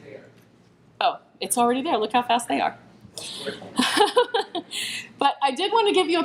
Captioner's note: laughs